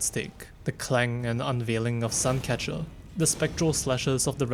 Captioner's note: clang